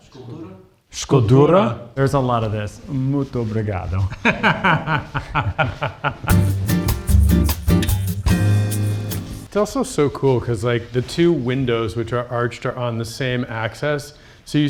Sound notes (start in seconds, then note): 0.2 everyone speaks in a foreign language; 3.1 speaks in a foreign language; 4.2 laughs; 6.3 upbeat jazz music